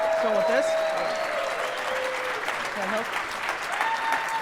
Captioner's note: audience cheers